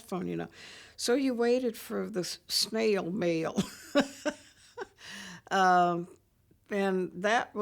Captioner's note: chuckles